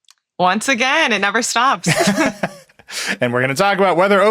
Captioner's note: chuckles